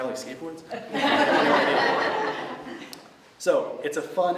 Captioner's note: laughter